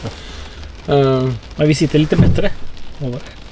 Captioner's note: klonk